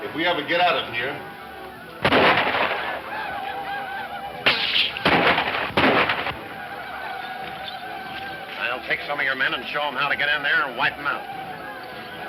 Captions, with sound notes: If we ever get out of here. (incessant shooting) - I'll take some of your men and show them how to get in there and wipe them out.